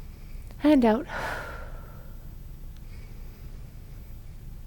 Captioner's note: exhales